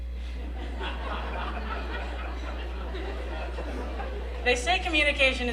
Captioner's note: laughter